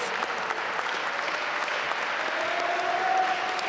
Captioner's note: applause